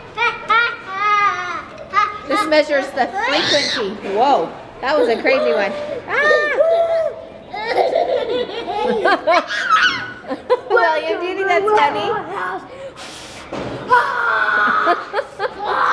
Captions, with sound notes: - This measures the frequency. Woah, that was a crazy one. [Yells] (Unintelligible Grunts And Yells) Do you think that's funny?